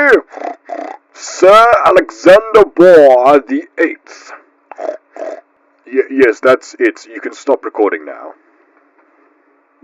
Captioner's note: pig Snorts; pig Snorts